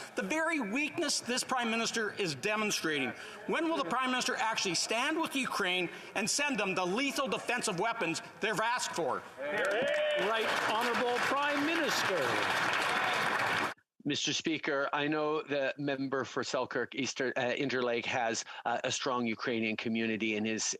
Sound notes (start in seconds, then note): 14.1 applause